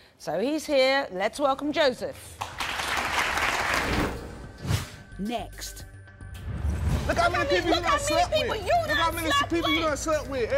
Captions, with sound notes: So he's here. Let's welcome Joseph. - [Voiceover] Next. - Look how many people you've slept with. Look how many people you've slept with.